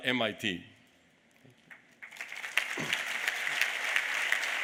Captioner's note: applause